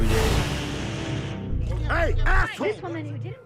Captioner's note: type whooshing